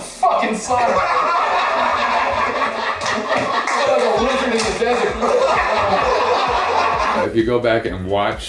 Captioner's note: laughter